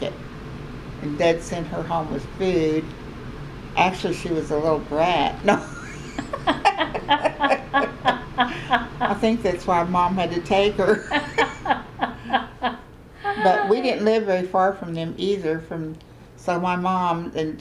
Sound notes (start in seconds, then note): 8.1 laughter; 10.8 laughter